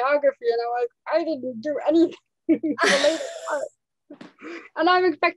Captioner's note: laughs